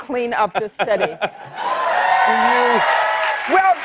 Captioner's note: cheers and applause